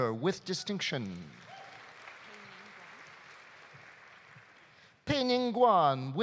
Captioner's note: audience applauding